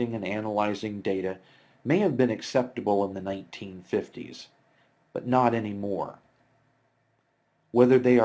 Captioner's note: click